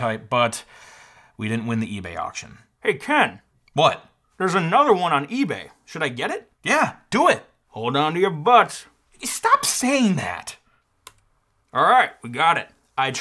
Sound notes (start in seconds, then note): none